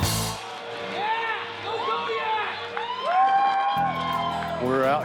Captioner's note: yelling muffled